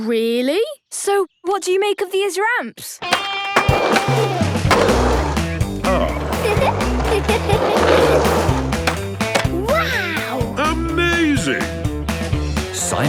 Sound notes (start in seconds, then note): 3.5 rock music; 5.8 giggles